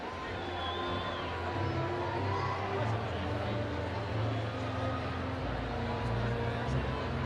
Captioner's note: audience cheering